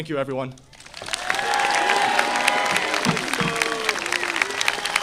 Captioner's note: audience applauding